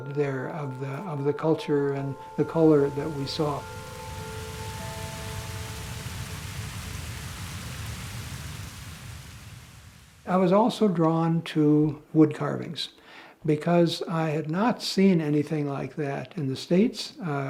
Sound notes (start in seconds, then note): 2.6 water gushing; 4.0 gentle music